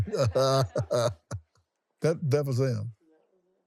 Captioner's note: laughs